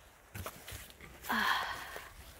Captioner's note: exhales